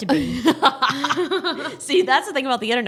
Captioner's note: laughing